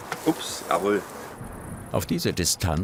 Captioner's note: crickets chirping